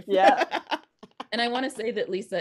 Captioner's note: laughing